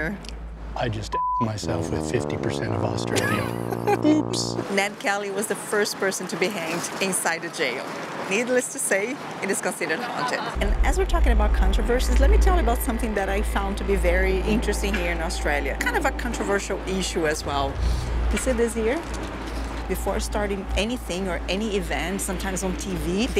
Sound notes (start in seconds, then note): 3.0 laughs